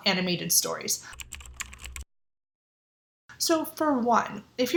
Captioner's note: keyboard typing